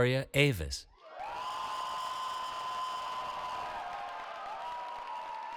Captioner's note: cheering